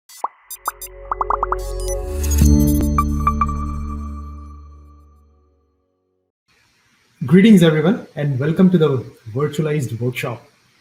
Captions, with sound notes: (bubbles popping) (upbeat techno music) - Greetings, everyone, and welcome to the virtualized workshop.